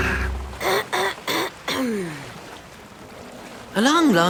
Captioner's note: Piggley impatient throat clearing